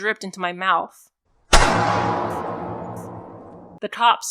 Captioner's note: isolated, amplified distinct, steady gunfire for the cracks